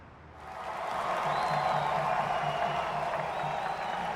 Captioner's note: crowd cheering